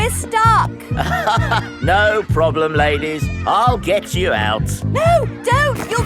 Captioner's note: chuckles